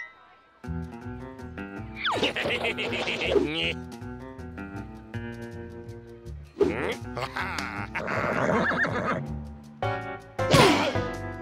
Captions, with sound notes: HEH HEH HEH HEH! NYUK. AHA! HA HA! (neighs)